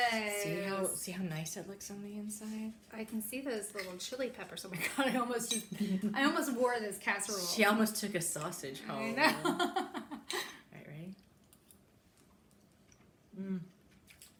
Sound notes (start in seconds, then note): 7.4 chuckling; 9.7 laughing